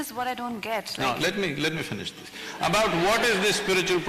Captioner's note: laughter